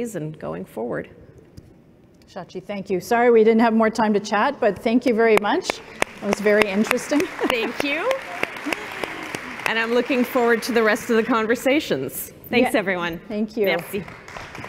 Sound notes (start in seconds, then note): 8.5 applause